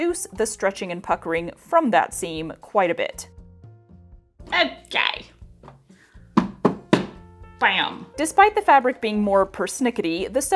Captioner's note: pat, pat, pat